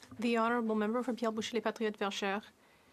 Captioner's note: speaking French